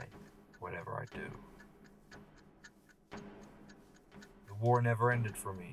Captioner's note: clock continues ticking